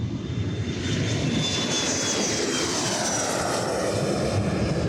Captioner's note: airplane whooshing